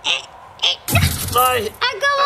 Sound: glass breaking noise

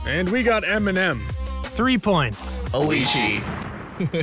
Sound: laughs

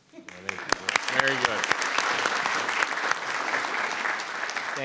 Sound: audience clapping

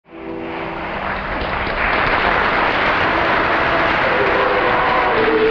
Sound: audience applause

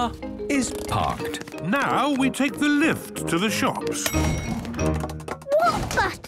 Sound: handbrake cranking; door dings open

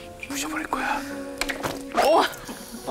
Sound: snap

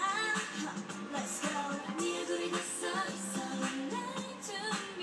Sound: background TV noise/music

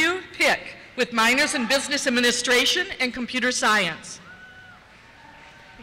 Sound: cheers

